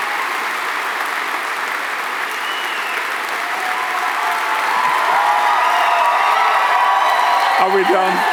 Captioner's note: applause